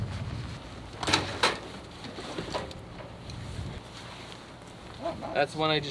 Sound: clanking backpacks

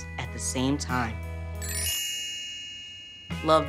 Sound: dinging

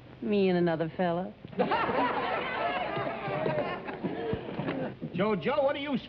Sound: everybody laughing

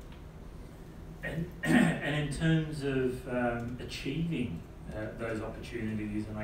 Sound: cough

